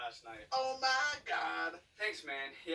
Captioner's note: autotuned voice